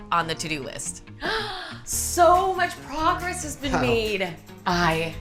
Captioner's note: gasps